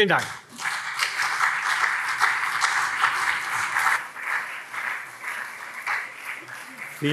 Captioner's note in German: Beifall CDU und SPD